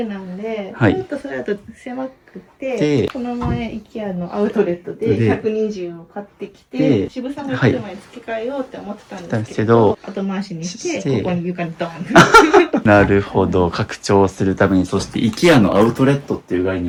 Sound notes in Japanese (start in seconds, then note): 12.0 笑い